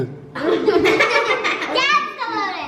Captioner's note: kids laughing